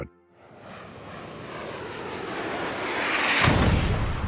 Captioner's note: sound of an aircraft flying